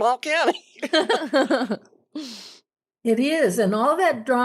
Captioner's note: laughing